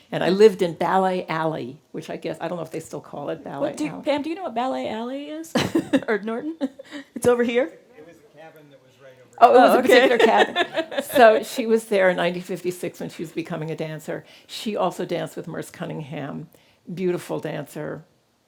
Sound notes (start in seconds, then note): 5.6 laughs